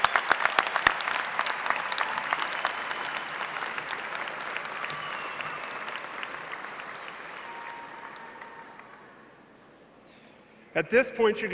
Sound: cheers and applause

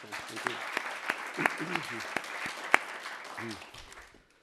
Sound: applause

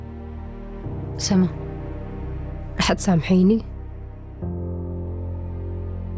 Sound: speaking foreign language

